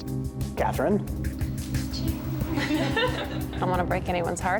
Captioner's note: laughing